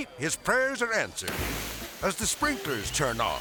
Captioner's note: water spraying